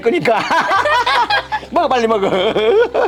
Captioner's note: both laughing